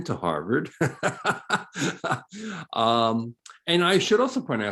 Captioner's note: laughing